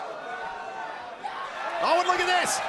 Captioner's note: crowd cheering